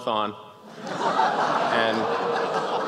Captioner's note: gasps, laughs, an ooh